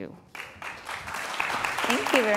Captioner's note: applause